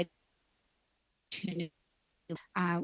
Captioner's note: speaking Indigenous Language